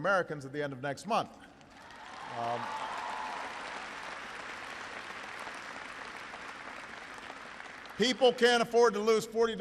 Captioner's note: applause